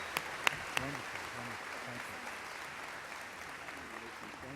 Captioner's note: background chatter